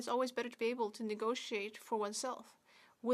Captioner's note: speaking French